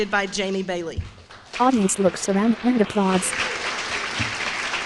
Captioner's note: applause